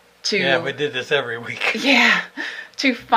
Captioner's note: he laughs; she laughs